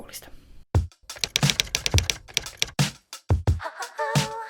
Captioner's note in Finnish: kirjoituskoneen naputusta